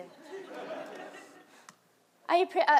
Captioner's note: audience laughs